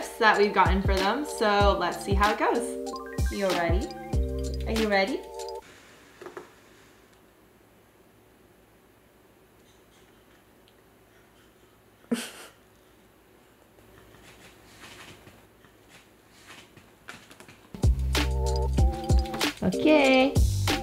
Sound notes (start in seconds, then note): 11.9 chuckles; 17.8 soft electronic music